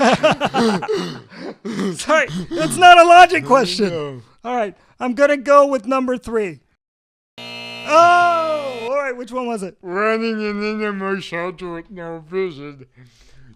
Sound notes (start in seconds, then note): 0.0 laughs; 7.4 the "you lose" buzzer